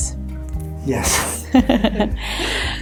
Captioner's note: laughs